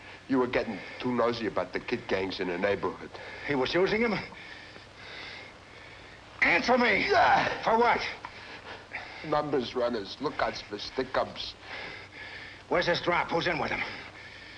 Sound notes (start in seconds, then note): 5.0 panting